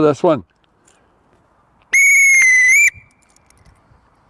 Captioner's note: whistle Blowing